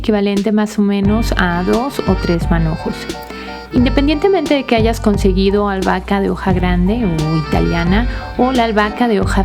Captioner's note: Italian